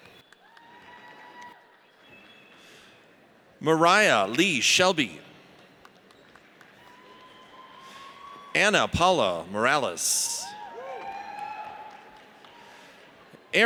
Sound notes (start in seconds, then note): 0.1 audience cheers; 5.6 audience applauds; 10.4 audience cheers